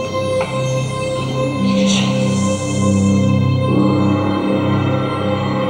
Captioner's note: whispered